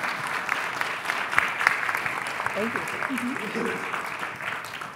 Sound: applause

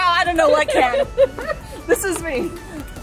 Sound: laughs

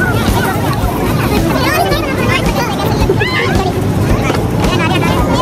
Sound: people chattering indistinctly

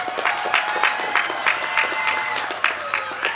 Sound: applause

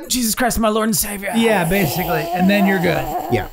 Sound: Glenn imitates choking

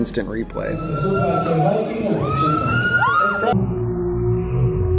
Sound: kids squealing; kids squealing in slow motion

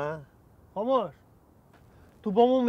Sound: in Tajik

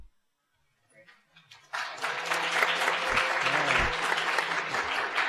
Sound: applause

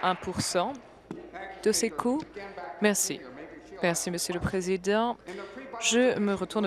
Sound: applause

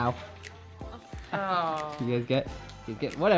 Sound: groaning

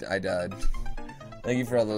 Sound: death audio

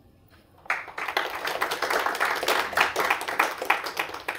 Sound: applause

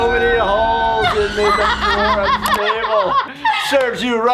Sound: laughs

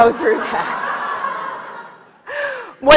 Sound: audience laughs

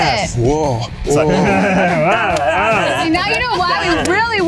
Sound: laughter

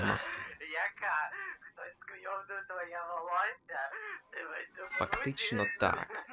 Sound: laughs

